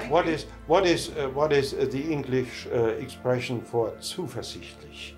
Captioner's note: speaking in German